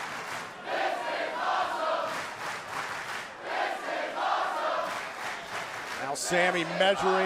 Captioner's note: fans chanting